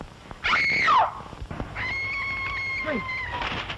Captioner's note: screams